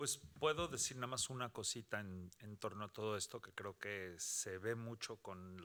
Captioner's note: speaking Spanish